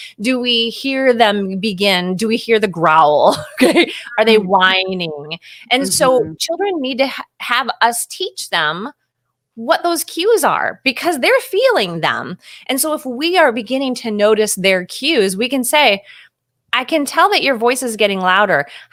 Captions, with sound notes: Do we hear them begin? Do we hear the growl (laughing)? Are they whining? And so children need to have us teach them what those cues are because they're feeling them. And so if we are beginning to notice their cues, we can say, "I can tell that your voice is getting louder".